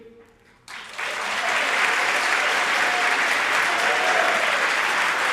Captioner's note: audience applauding generously